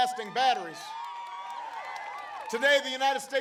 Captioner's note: applause